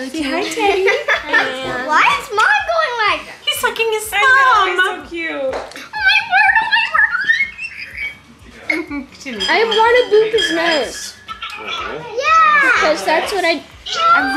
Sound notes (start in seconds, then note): 9.2 squeals